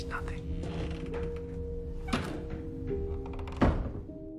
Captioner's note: voiceover; door creaks shut